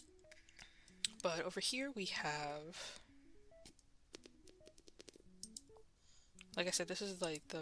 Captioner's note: mouse Clicking and Breathing; silence then Mouse Clicking